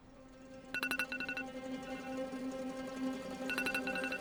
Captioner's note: alarm clock ringing